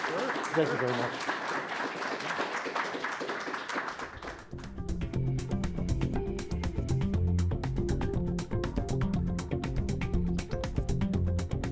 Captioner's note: applause